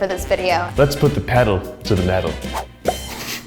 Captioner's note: chuckles